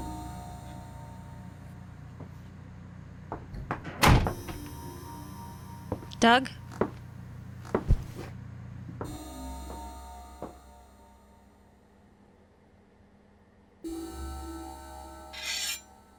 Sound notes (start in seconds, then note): 3.5 door bangs shut